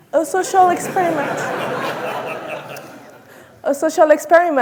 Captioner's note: audience laughing